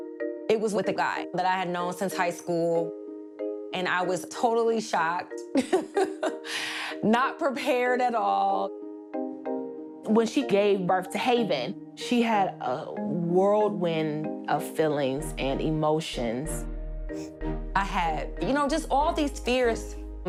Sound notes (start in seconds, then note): 5.4 laughs